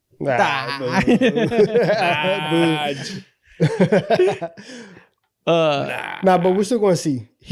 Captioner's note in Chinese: 一陣歡樂的笑聲